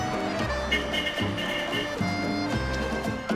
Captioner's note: horn honking